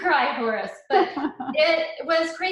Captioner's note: chuckling